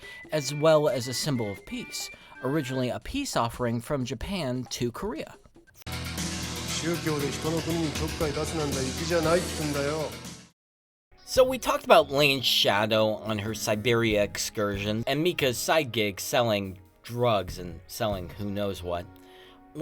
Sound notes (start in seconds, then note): 6.4 speaking japanese